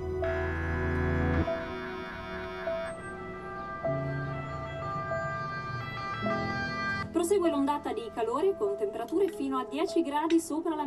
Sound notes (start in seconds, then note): 2.8 siren